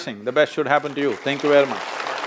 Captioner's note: applause